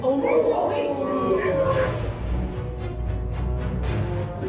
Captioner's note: crowd awing